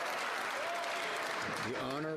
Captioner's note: cheering; some Applause